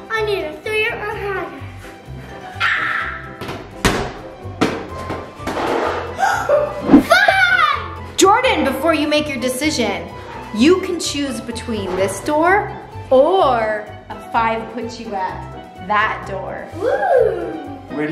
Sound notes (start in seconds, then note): 3.5 giant cube hits floor; 6.3 gasps